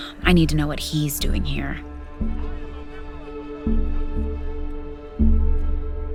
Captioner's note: distant arguing